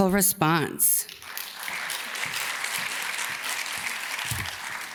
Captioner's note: audience claps